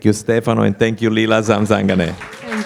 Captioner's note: applause